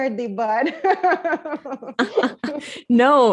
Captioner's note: laughs